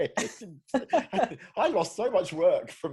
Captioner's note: both laughing